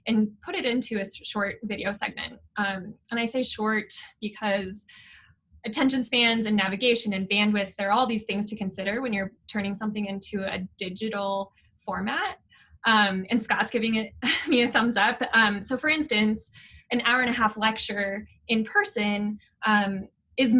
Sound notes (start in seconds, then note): 14.3 giggling